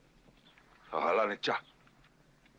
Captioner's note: speaking Comanche